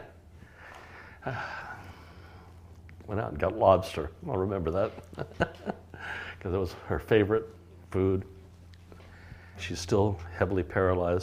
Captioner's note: laughs and then sighs; laughs